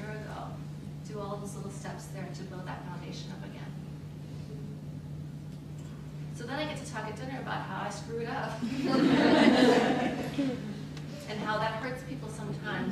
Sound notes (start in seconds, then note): 8.6 laughter